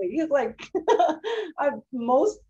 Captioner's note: laughs